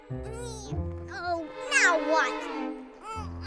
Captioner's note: straining